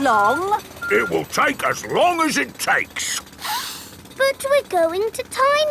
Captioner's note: sniffs